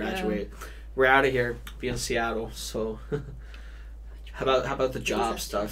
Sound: chuckles

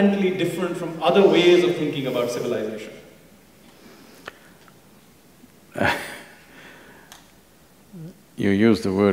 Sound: Sadhguru laughs

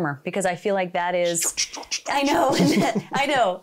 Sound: imitating robot sounds

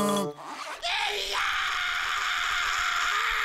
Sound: screaming

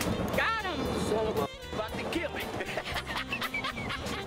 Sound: laughs

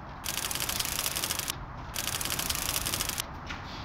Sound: typewriter clicking

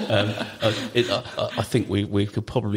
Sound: all laugh

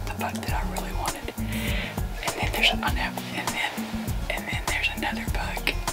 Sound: whispering

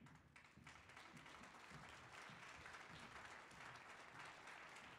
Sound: audience applauding

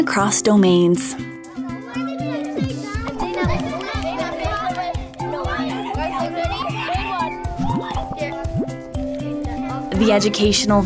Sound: ambient classroom sounds

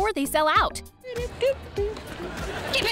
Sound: humming

